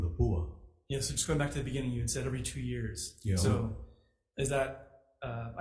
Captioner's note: speaks foreign language